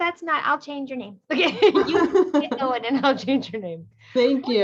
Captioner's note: laughter